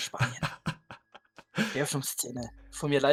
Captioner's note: laughter